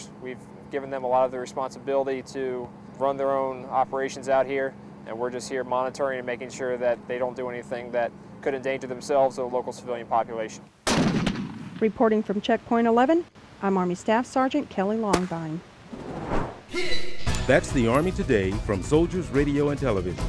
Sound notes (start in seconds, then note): 10.9 explosion; 16.7 upbeat music